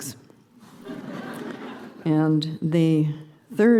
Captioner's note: laughter